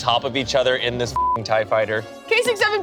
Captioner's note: beep